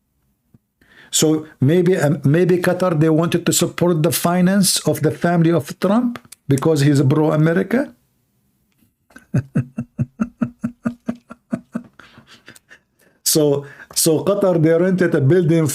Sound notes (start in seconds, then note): 9.1 Ketawa